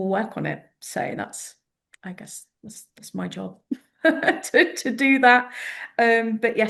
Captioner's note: laughter